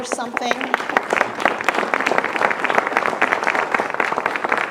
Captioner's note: audience applauding